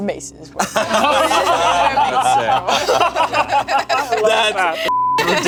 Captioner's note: group laughing; beep